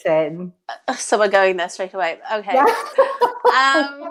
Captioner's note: laughs